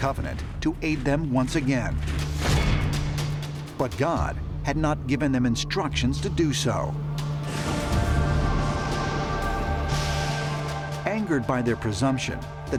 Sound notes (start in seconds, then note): 7.4 rolling thunder